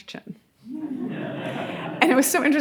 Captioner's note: audience laughing